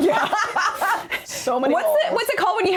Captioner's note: laughing